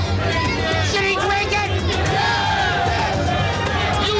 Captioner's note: cheering